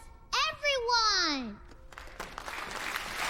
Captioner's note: cheering